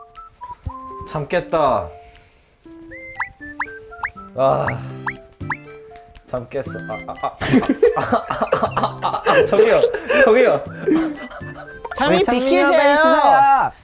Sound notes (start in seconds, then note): 2.9 tap tap tap tap tap tap; 7.1 aussies are laughing and teasing again